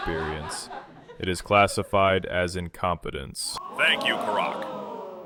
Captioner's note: audience laughs, ooooh reaction